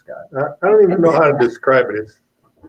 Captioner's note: laughs